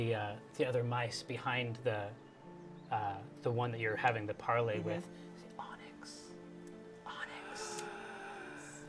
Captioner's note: whispers; gasps